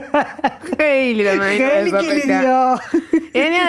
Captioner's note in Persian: خنده